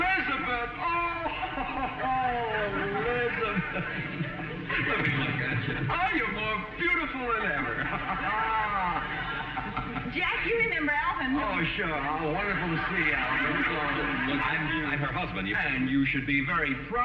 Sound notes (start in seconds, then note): 1.1 chuckles; 15.3 audience laughing